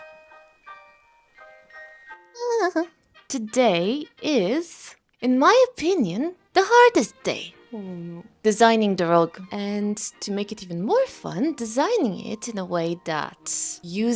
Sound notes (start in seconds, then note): 2.4 weird goblin noises